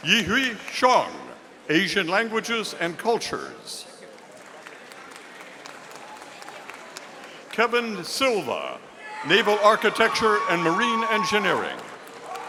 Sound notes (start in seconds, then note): 4.1 audience applauding